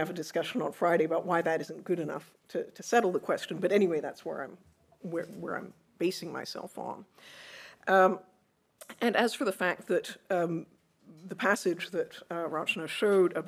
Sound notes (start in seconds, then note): none